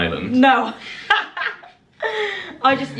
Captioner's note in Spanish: laughing